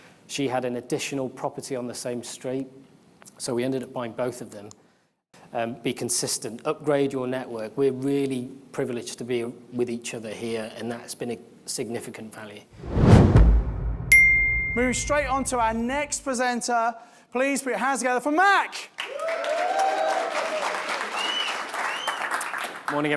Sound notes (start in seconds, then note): 12.8 logo whooshing; 14.0 logo dings; 19.0 audience cheers and applauds